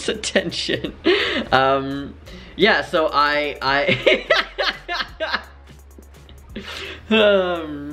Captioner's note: stutters and laughs